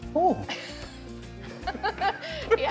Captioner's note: both laughing